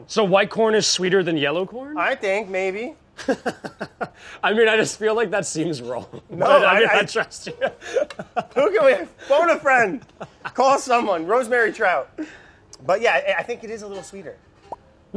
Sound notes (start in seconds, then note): 3.2 laughs; 5.9 continues laughing